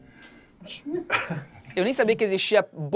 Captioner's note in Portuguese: risadas